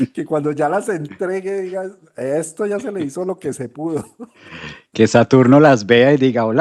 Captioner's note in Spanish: risas; carraspeo; resoplido